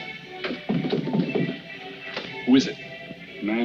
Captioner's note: knocking at door